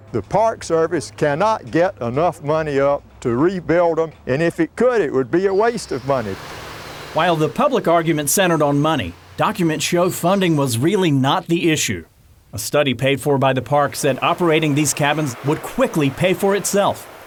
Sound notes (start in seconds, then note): 6.4 birds chirping